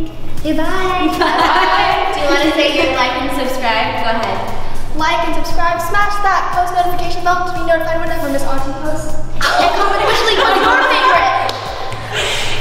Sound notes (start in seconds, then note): 9.4 laughing